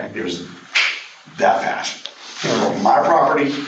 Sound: snaps finger

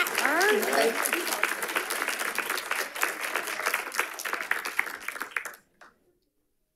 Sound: audience applauding

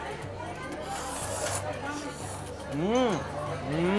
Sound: crowd chattering

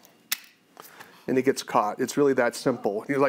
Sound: trap snaps

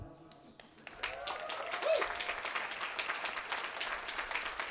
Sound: applause

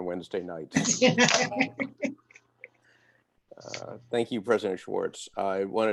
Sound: laughter

